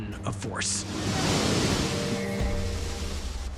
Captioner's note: wave crashing